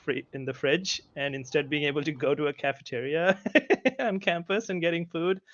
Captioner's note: laughs